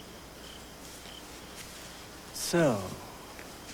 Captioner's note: chirping of crickets